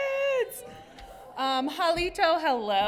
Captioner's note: speaks in Choctaw